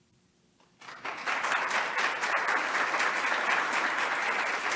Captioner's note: attendees applauding